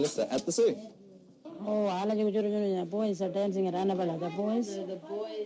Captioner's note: foreign language